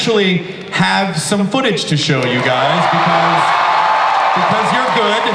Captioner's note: audience cheers